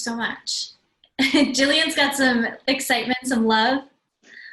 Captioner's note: laugh